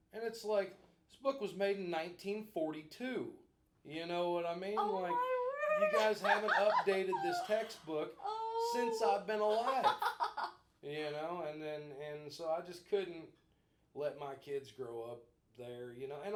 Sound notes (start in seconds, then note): 10.5 laughing